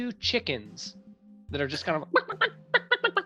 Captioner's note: clucking